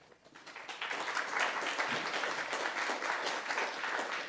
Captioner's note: applause